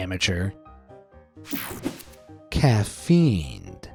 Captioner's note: screen whooshing